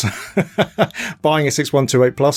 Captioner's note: laughing